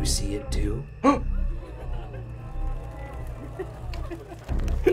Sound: gasps

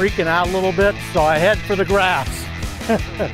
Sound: laughs

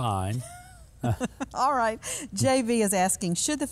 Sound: laughing

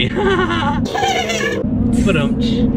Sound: chuckling

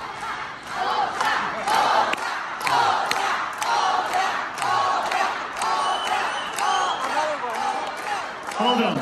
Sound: crowd

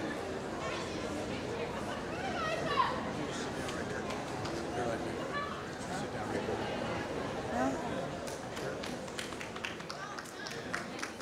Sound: applause

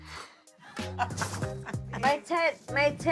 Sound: laughing

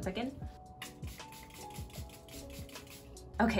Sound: spraying sounds

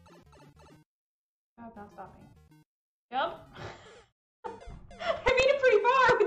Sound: laughs

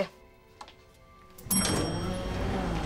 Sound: dinging

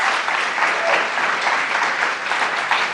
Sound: applause

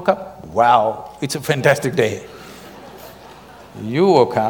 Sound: laughter

